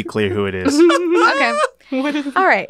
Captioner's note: laughs